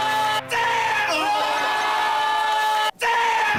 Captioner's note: shouts